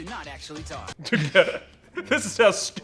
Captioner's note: laughs